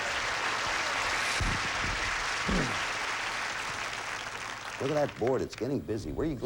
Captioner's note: audience applauding